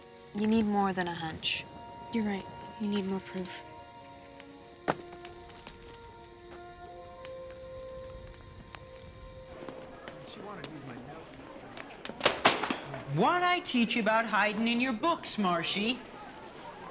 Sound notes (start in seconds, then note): 4.8 thuds; 5.4 fire crackles